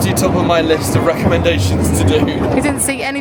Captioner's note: chuckling